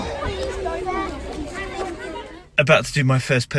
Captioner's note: crowd of children talking